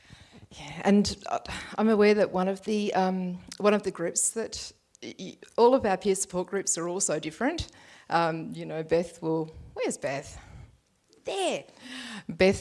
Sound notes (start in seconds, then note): none